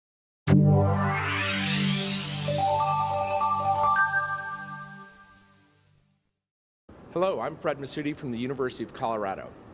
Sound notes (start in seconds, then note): 0.5 loud electronic humming; 1.8 chiming jingle